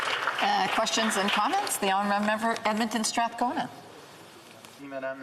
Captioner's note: applause